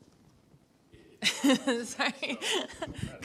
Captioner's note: chuckles